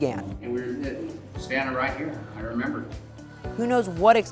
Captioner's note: murmuring